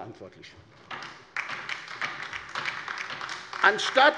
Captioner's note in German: Beifall bei der LINKEN